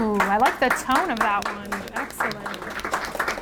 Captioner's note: audience applauds